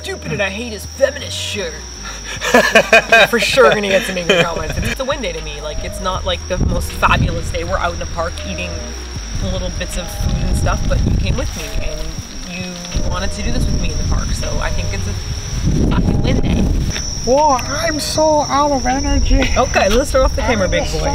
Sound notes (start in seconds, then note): 1.9 laughs